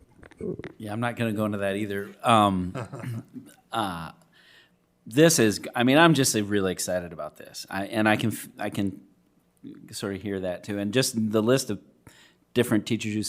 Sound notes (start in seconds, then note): 2.6 laughs